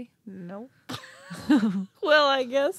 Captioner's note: laughing